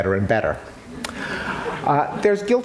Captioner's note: laughter